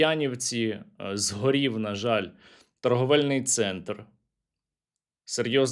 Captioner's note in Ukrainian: сопіння